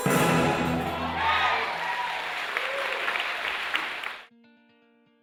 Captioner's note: applause